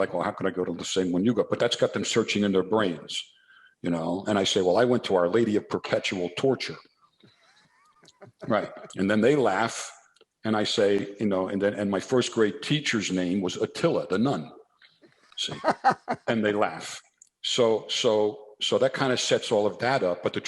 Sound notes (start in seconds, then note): 15.4 laughs